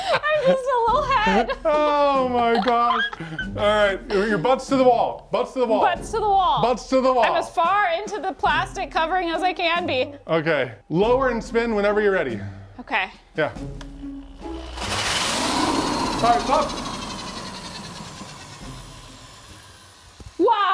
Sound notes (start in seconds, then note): 13.6 power drill whirring